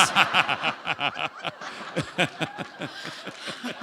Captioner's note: laughter